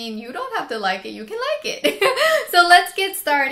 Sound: laughs

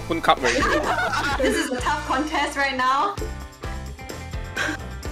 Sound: all laughing

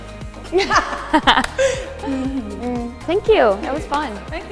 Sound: laughter

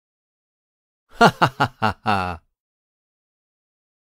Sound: sound of laughter

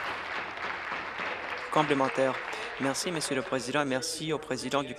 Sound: applause

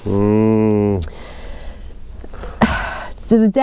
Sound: sighs

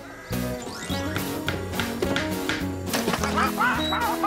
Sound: tapping; quacking

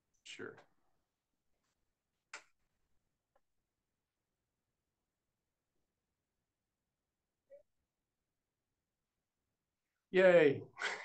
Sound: laughter

